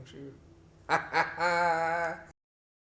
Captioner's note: unsympathetic laughter